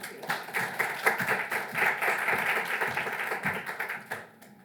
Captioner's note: audience clapping